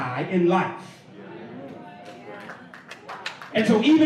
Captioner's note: applause